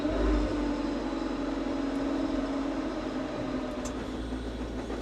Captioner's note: machinery continues rumbling